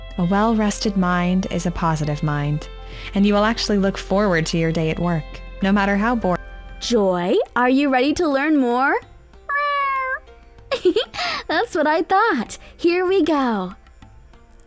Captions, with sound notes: A well-rested mind is a positive mind, and you will actually look forward to your day at work, no matter how boring. - Joy, are you ready to learn more? (Joy meows) (chuckles) That's what I thought. Here we go.